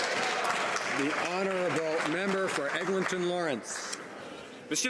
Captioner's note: some Applause